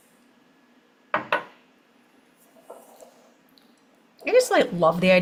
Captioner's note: measuring cup thuds